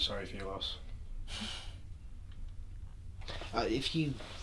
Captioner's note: exhales